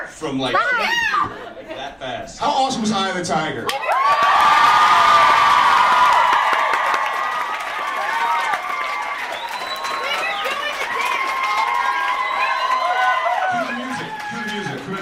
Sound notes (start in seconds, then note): 3.7 audience cheers and screams